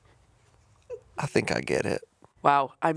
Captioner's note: chuckling